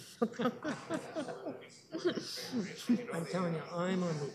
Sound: both laugh

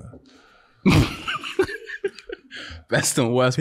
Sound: Daniel laughing

